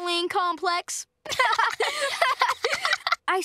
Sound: laughing

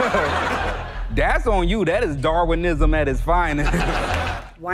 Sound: he and audience laughs; audience laughs

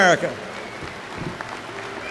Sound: applause

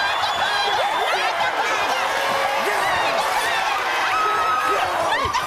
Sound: yells

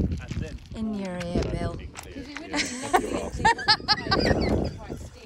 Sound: laughs

